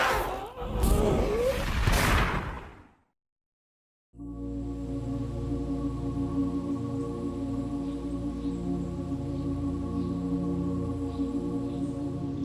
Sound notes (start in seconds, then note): 0.0 masked figure groans; 0.8 dramatic musical score; 1.8 gun fires; 4.1 birds chirp; 4.2 peaceful music